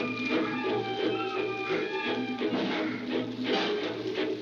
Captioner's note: grunting